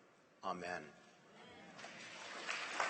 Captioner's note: applause